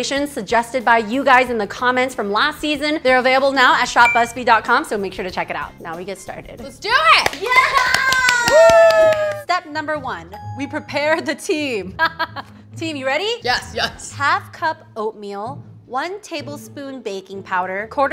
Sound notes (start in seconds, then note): 7.3 all cheering; 11.9 laughing